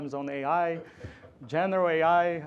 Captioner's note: laughter